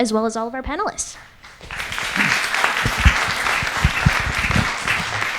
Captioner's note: audience applauds